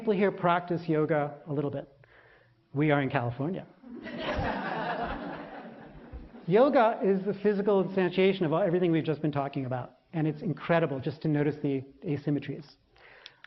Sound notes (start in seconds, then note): 6.8 笑聲; 8.5 laughter